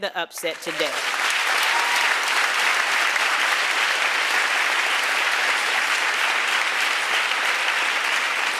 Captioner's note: applause